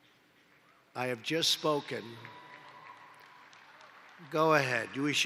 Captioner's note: applause